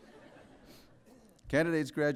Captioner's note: laughter